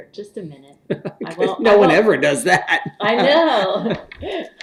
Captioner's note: laughs